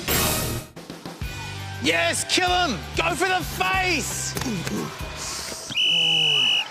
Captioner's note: whistle blows